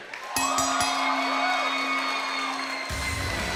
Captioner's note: bell ringing; crowd cheering